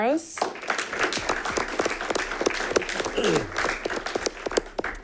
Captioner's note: audience applauding